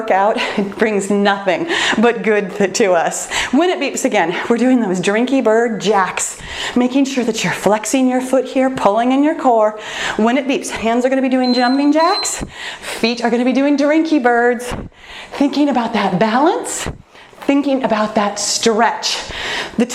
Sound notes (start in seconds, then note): 11.4 timer beeps